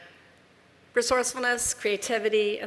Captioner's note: none